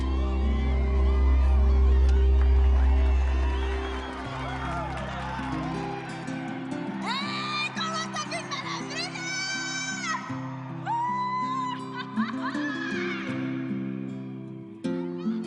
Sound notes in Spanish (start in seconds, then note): 2.9 Aplausos; 11.1 Gritos